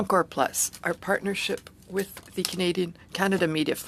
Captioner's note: speaking French